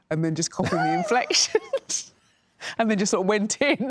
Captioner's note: laughing